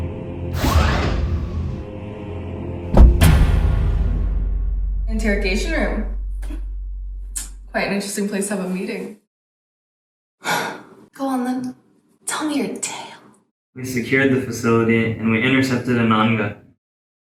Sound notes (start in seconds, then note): 0.6 cell door opens; 6.2 scoffs